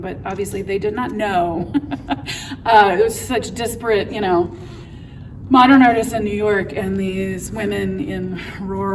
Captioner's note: laughs